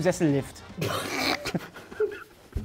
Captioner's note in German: Lachen